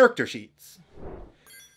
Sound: whoosh

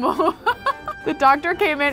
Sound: laughs

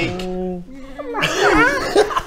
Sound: meow

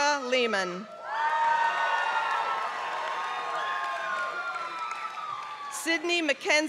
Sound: applause

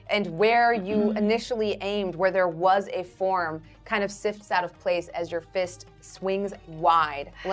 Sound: none

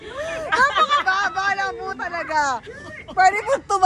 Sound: Jennica cries

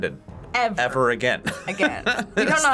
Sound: laughs

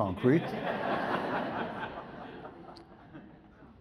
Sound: audience laughs

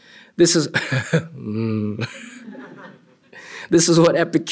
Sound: laughter

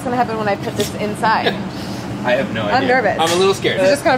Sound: laughs

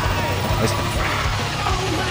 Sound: annoyed sigh

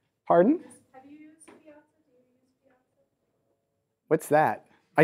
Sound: woman speaks off mic

